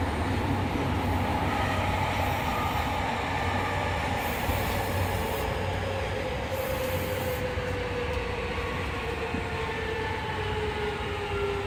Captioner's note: sound of train slowing down